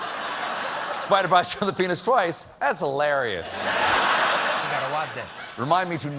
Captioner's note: laughter